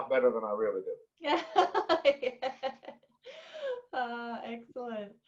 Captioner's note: laughs